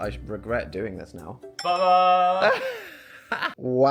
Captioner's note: bell dinging brightly; Dan laughs